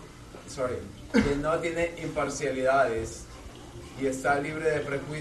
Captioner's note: Spanish